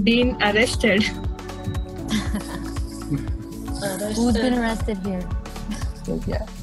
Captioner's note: chuckles